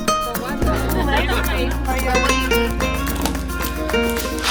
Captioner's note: people chattering